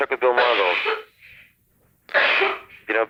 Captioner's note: coughs in background